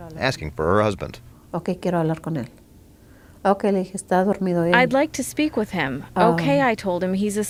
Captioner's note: through translator